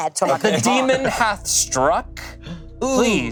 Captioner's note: laughing